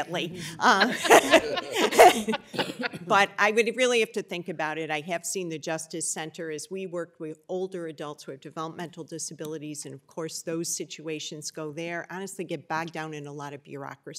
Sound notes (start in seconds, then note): 2.3 laughter